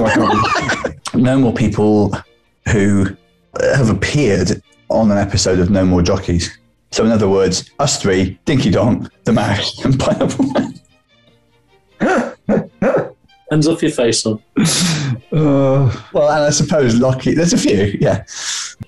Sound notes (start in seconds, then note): 0.0 laughing; 12.0 laughing